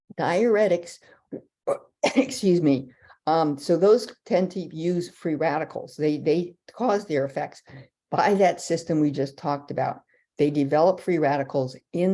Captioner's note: coughing